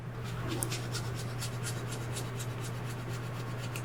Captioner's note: scrapping